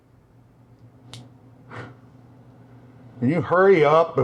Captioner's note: exhales